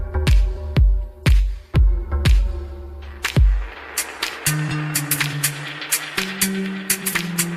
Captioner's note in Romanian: Aplauze